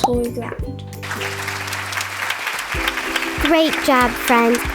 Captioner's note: audience clapping